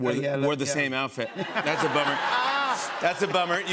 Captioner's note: laughter